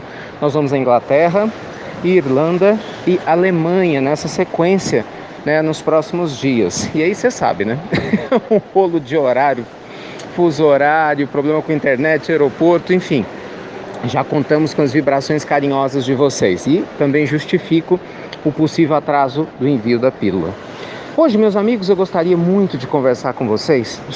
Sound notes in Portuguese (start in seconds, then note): 7.8 risadas